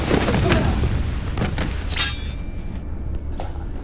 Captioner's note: whooshing; thudding